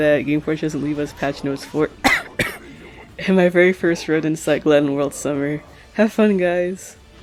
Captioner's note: cough cough